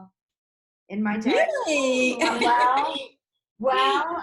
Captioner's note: laughs